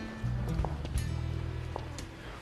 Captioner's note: footsteps